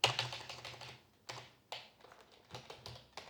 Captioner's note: keyboard clicking